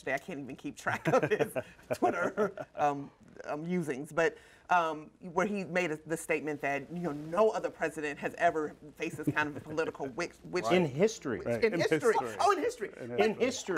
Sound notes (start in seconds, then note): 0.9 laughter